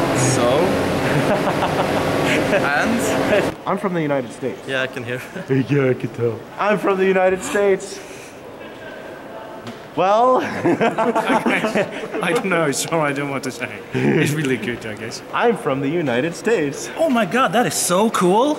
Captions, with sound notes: So? (Laughing) And? I'm from the United States. Yeah I can hear. (Mocking) Yeah I can tell. I'm from the United States. Well? (Laughing) I don't know. I don't want to say. It's really good I guess. I'm from the United States. Oh my god, that is so cool!